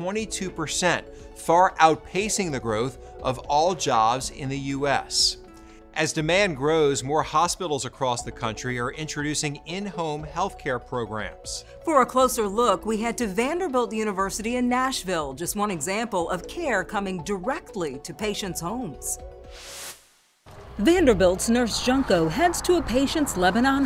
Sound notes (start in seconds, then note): 19.5 graphics swishing